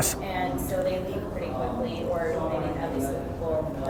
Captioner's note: murmurs